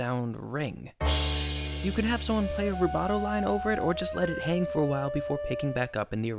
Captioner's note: bang